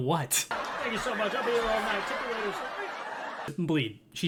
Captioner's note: insert laugh track